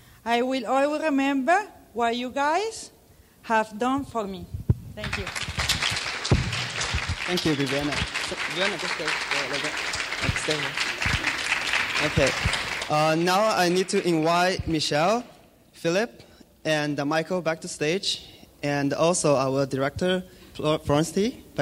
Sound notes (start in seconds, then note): 7.0 clapping